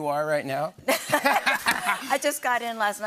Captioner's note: laughter